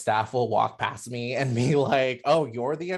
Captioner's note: chuckles